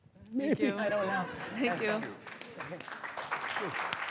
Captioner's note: applause